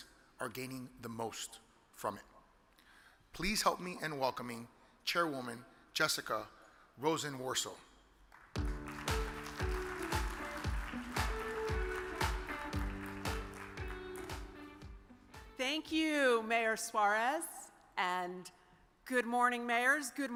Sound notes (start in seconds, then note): 8.4 audience applause; 8.5 uplifting music